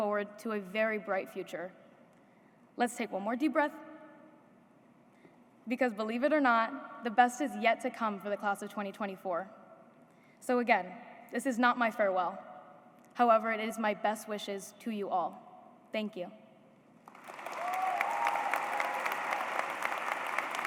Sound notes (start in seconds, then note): 17.1 cheers, applause